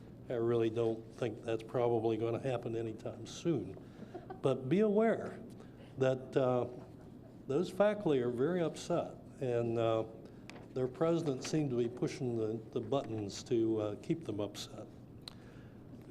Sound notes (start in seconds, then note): 4.0 light laughter